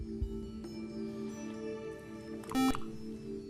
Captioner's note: buzzer